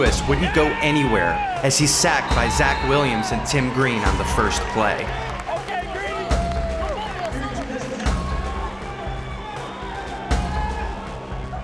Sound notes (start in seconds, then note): 5.1 fans yelling: "Ok ...Wooo; 6.6 intense Music; 7.9 intense Music Continues